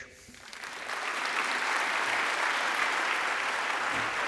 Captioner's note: applause